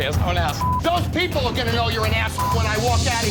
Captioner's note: beep; beep